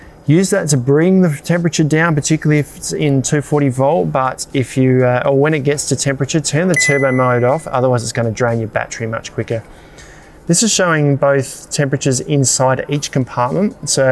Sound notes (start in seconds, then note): 6.8 fridge beeps